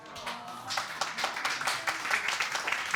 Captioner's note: audience applauding